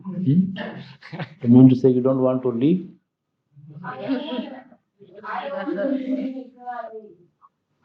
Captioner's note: laughter